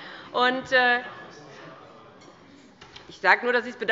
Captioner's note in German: Zurufe von der CDU